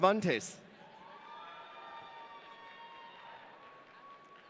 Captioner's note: audience cheering